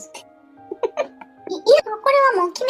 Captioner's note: laughs